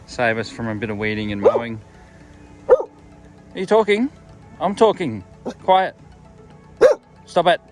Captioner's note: Jake barks